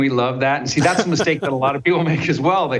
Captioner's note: laughs